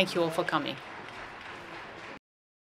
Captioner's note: applause